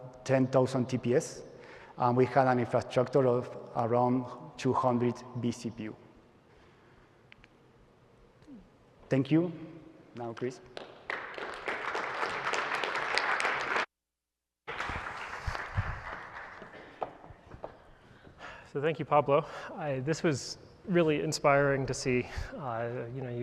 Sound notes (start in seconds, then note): 10.7 applause